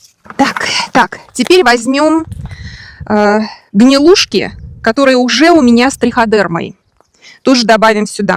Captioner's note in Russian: тяжело вздыхает